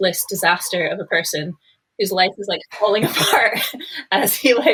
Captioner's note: laughing